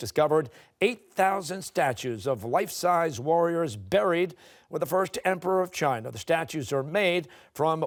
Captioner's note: none